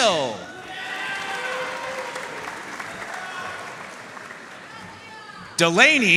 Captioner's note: audience cheering and applauding